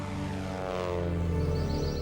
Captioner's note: plane fly-by